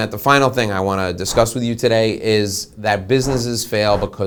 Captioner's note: whooshing